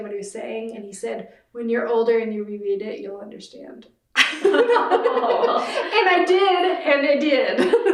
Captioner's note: laughter